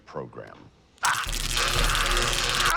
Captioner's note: zapping, screaming